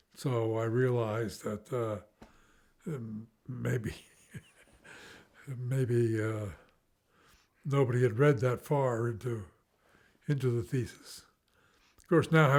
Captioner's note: laughs